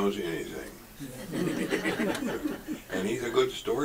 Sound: audience laughs

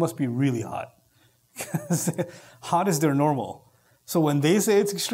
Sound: chuckle

